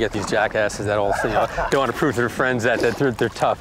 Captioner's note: laughs